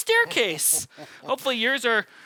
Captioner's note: chuckling